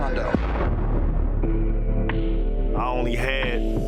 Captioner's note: gunshot blasting